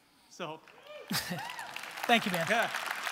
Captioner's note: audience cheering